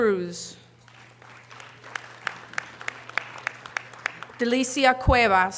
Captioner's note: audience applause